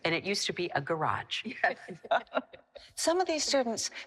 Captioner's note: laughing